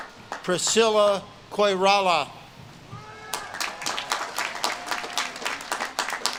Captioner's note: audience claps and cheers